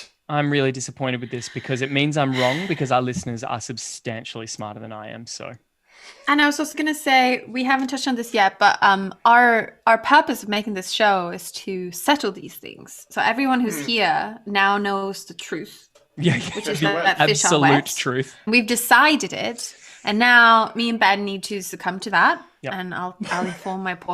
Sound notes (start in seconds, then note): 16.2 laughter